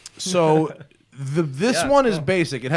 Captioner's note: laughter